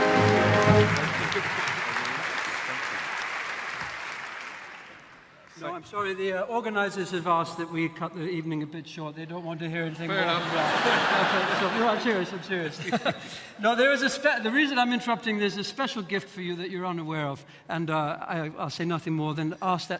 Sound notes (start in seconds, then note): 10.0 audience laughing; 13.1 laughing